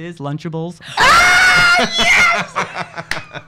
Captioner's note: screams